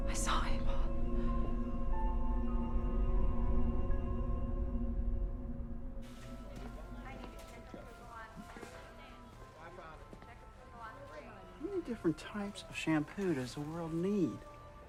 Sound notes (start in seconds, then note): 1.3 suspenseful music; 7.4 store worker announcing